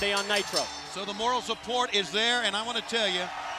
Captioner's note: bell ringing